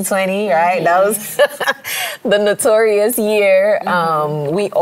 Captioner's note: laughs